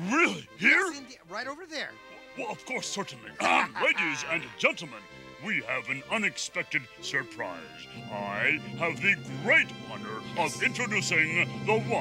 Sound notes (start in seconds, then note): 0.2 gasps; 3.3 Gonzo laughing; 3.4 clears throat